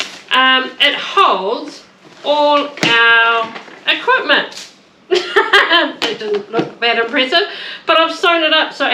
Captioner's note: laughter